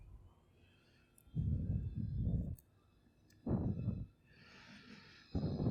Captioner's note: breathes deeply